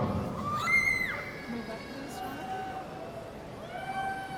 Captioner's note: audience cheering